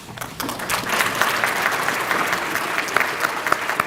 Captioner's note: applause